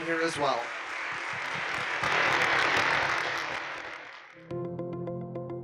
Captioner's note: audience continues applauding; upbeat music